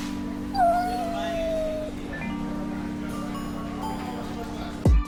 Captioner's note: animal whimper